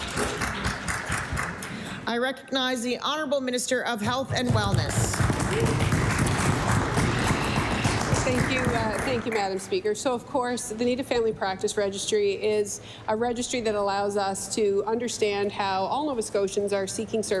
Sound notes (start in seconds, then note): 5.0 some Applause; 9.2 applause